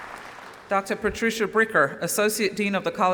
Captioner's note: applause